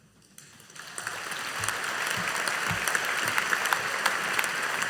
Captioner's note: audience applauding